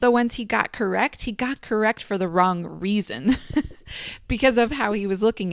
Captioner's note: laughs